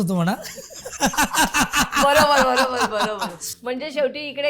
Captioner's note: laughter